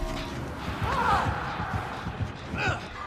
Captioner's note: heart pounding; grunts